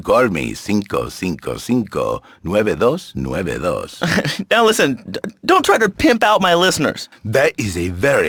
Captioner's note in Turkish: gülüyor